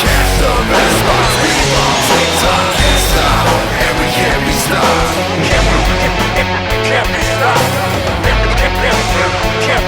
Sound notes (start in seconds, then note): 1.5 glass shattering